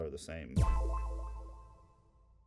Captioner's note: pinging